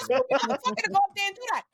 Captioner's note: laughing